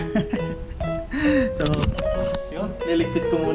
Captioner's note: nervous laugh